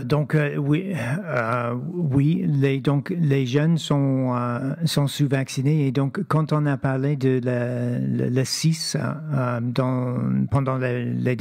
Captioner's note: speaking French